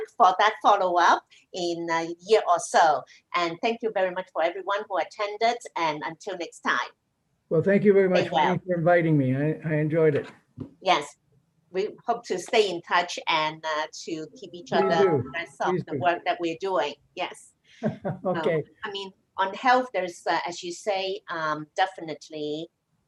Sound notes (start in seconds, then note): 17.8 laughs